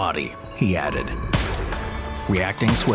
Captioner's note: gunshot blasts